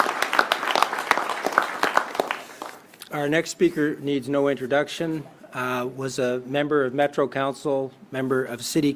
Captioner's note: applause